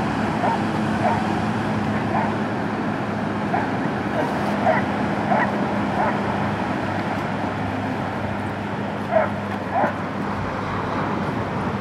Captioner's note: dogs barking